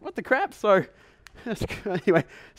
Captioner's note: chuckles